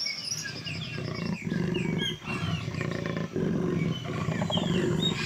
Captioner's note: Jaguar roars